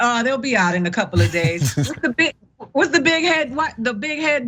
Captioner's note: laugh